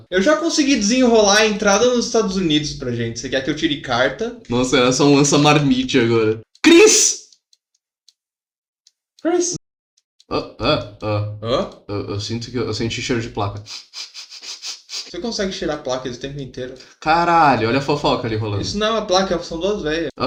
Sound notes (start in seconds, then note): 13.6 sniffing